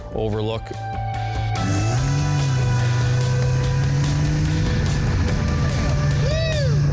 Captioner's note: upbeat rock music; engine revving